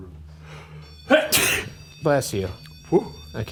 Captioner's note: sneezing